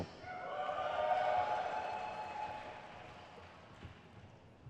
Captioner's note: crowd cheers